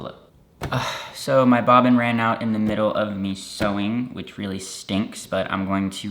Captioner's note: sighs